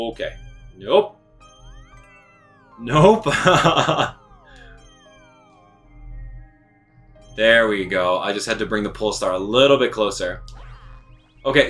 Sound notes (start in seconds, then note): 2.9 laughs